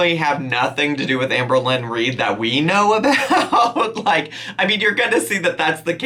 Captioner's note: laughing